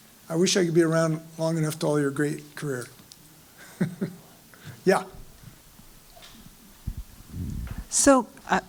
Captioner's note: laugh